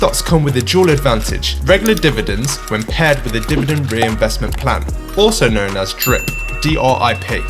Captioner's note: drip